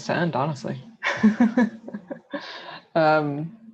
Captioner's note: laughter